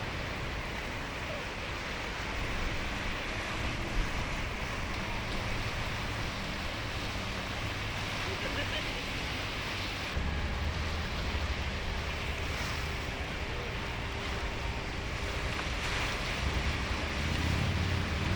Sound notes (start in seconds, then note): 6.0 waves crashing